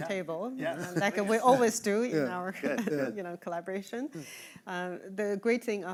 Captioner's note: chuckling